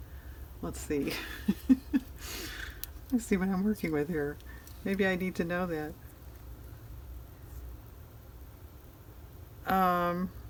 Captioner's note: laughs